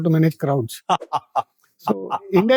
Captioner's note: rambunctious laughter